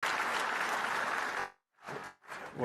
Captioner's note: applause